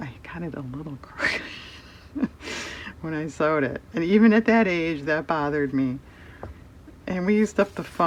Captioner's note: laughs